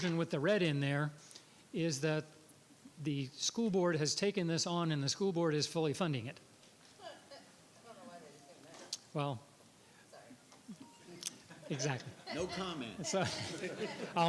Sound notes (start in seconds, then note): 7.0 background chatter; 11.1 background chatter and laughing